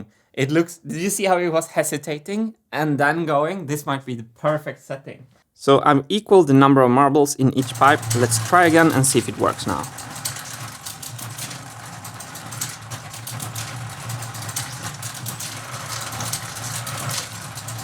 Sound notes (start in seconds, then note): 10.2 conveyor belt ratchet; 10.2 marbles rolling